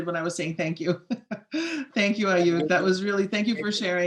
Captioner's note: laughs